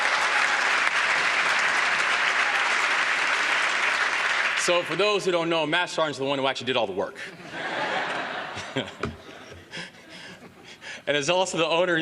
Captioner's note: applause